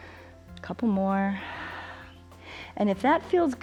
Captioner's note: exhales